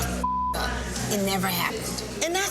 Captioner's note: beep